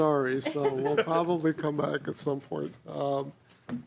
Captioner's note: laughing